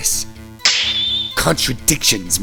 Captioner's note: snap!